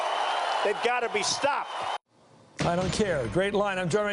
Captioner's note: cheers and applause